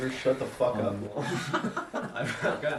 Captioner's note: laughing; laughs